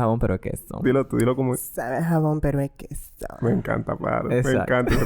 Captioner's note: sexy voice; laughs